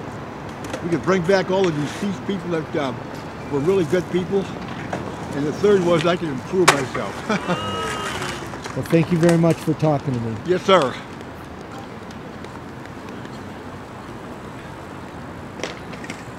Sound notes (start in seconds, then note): 7.1 chuckles